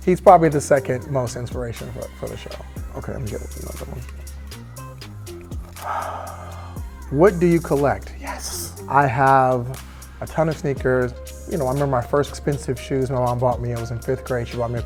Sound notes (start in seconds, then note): 5.7 paper rustling; 6.6 sighs